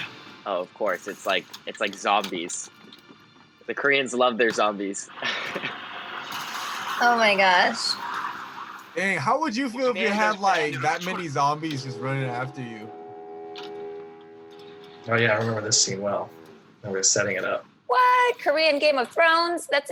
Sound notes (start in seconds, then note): 5.0 chuckles